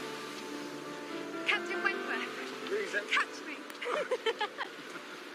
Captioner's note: giggles